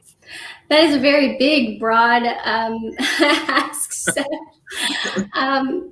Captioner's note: laughter